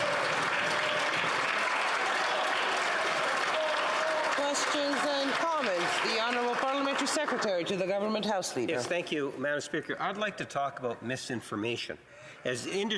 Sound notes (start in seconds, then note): 6.9 some Applause